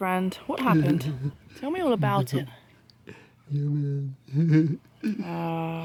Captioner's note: downtrodden muttering